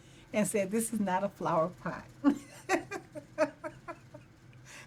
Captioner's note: laughing